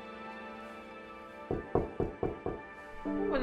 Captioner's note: knocking